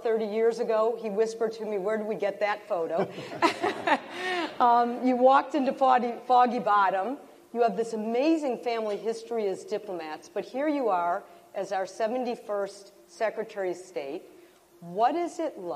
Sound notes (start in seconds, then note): 4.7 laughter